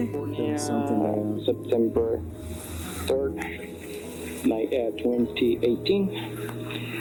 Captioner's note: recording playback